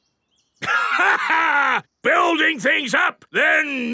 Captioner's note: laughs